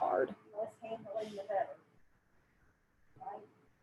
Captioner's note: murmurs